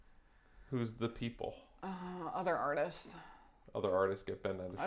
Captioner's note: sigh